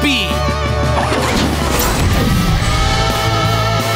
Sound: turbo turning on

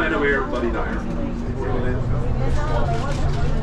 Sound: chatter

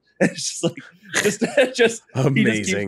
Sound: laughs

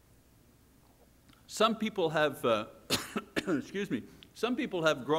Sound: coughs

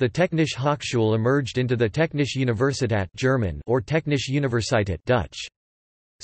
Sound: German

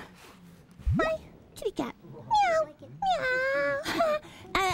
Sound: meows

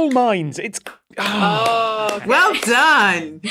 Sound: applauds

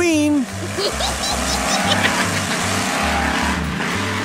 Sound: witch makes cackling sound

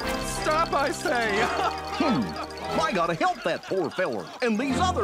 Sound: giggling

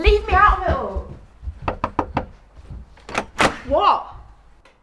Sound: A knock on the front door

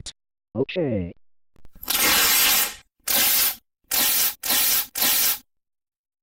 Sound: paper ripping

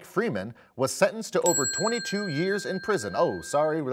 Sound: bell chimes

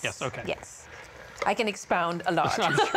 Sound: laughing

